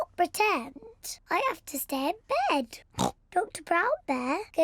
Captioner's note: oinks